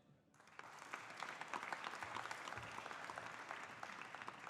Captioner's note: audience applauding